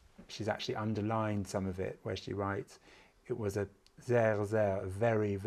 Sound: german

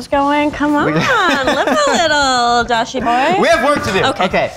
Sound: laughing

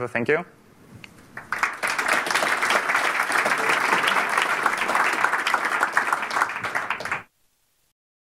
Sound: applause

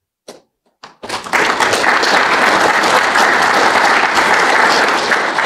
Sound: applause

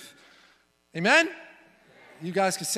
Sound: crowd

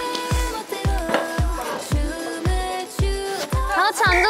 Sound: nom nom

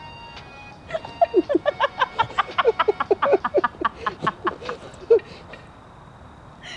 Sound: both break out in a short laugh

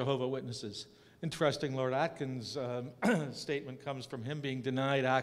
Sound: cough

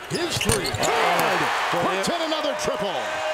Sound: cheering

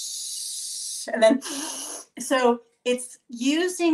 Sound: inhaling

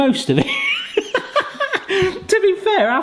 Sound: laughing

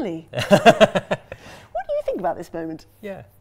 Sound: laughs

